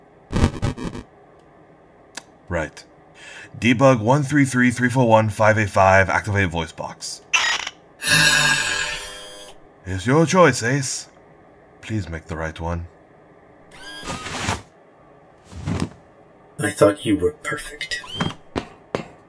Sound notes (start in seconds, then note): 0.3 bitcrushed sounds; 8.0 Ace sighs in annoyance